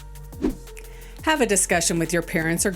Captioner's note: air whooshing